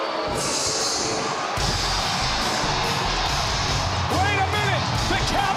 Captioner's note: crowd cheering